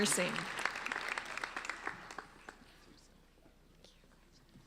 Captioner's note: applauding